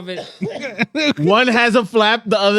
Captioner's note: all Laughing